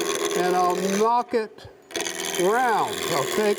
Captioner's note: scraping metal